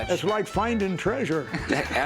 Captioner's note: laughing